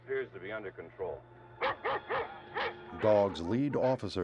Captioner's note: dogs barking